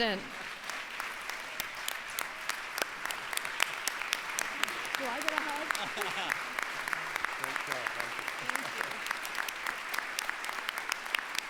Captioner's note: applause